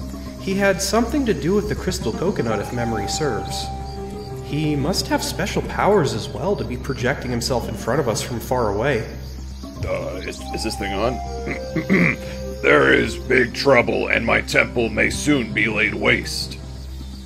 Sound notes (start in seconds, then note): 11.5 clearing throat